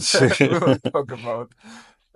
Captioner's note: laughs